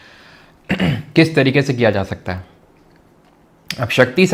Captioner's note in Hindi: गला साफ़ करने की आवाज़